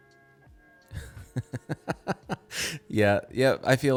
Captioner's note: chuckles